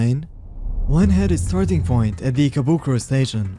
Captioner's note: air whoosh